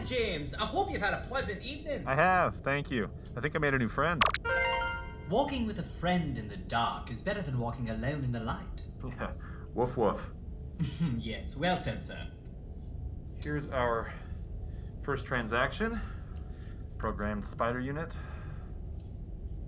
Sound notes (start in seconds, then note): 4.2 success chime; 9.5 chuckling